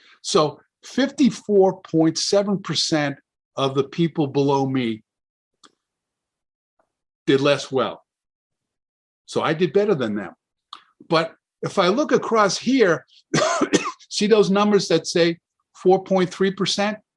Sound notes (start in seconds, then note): 13.3 coughs